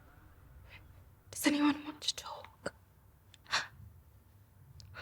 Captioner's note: gasps